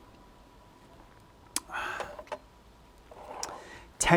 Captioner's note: sips tea